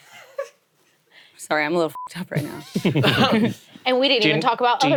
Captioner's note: beep